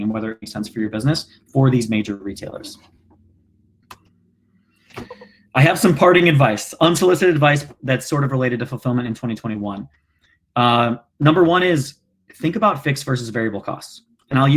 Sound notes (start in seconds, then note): 4.2 clicking